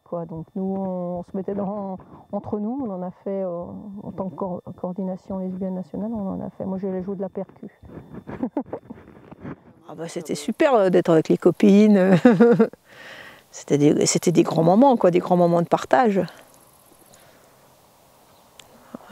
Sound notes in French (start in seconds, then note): 7.8 Rires